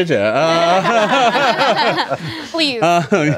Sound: laughing

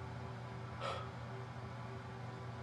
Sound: sharp breath

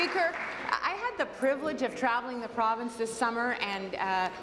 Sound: applause

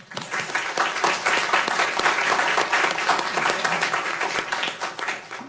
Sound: applause

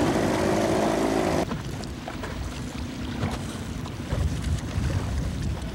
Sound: water splashing gently

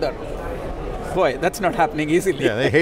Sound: chuckles

